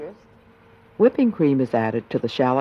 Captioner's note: voiceover